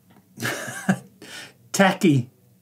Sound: laughs quietly

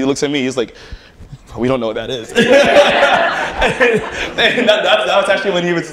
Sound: laughter

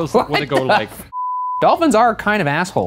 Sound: beep

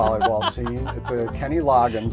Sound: laughs

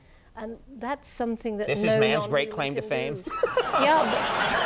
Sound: laughs; audience applauds

